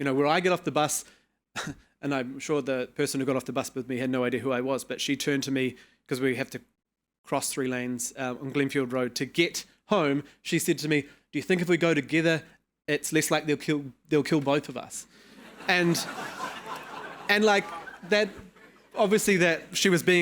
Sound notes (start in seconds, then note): 15.4 audience laughing